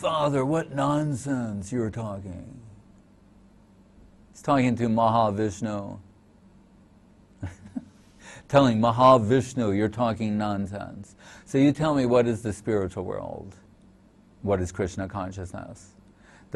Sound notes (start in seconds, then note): 7.4 chuckles